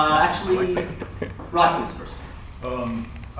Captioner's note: laughter